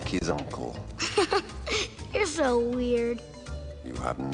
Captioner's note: laughs